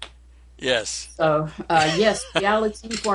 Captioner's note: laughs